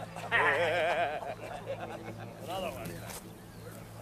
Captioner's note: laughter